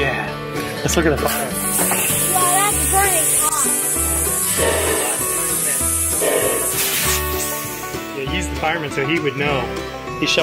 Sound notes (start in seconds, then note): 1.7 engine hissing